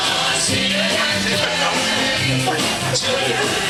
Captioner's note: audience murmuring